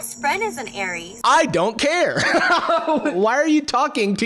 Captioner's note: laughs